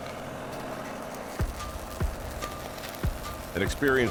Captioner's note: sparks crackling